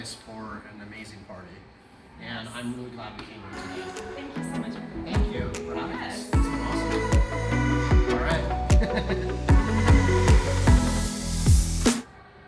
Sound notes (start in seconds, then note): 9.2 laughs; 9.9 upbeat music